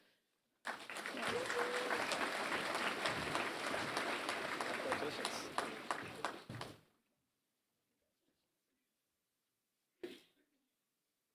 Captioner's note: applause